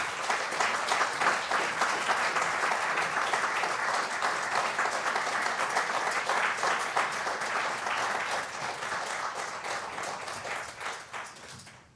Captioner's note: applause